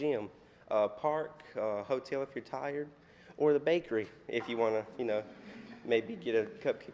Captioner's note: laughter